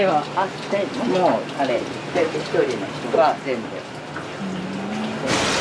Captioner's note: frying